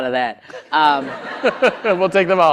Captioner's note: laughter